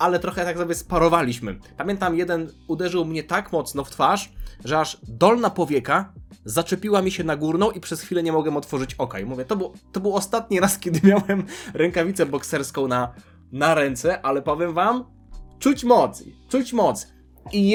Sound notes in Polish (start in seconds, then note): 10.8 śmiech